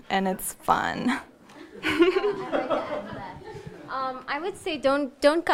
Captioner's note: laughing